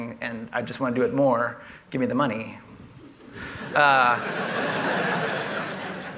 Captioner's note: laughter